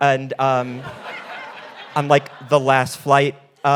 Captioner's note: audience laughing